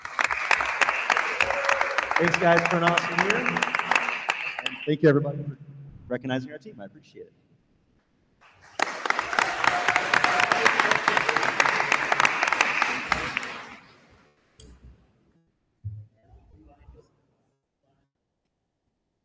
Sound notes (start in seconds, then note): 0.0 attendees applauding; 8.4 attendees applauding; 9.1 attendee cheers